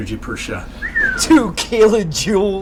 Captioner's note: Jack whistling